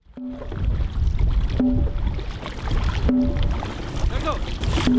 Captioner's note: water splashing; drum banging